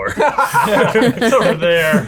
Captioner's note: laughing